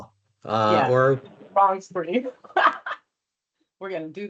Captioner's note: laughs